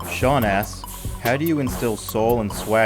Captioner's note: strong, beating music; voiceover